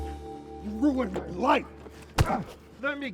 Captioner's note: man grunting